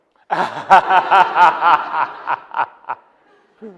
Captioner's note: all laughing